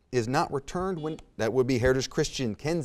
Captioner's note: buzzer beeps